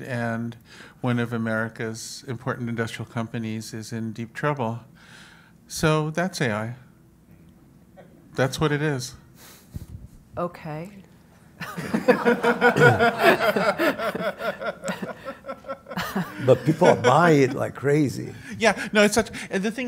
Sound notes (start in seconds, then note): 11.6 audience laughs